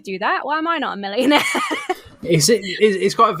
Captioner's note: laughs